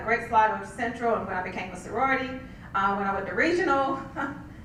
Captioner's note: laugh